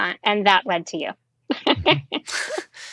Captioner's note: laughing